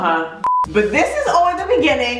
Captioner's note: beeping